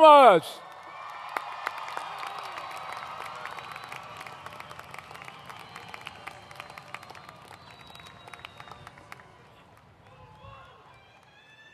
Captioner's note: applause